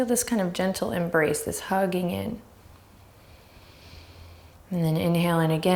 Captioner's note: deep breaths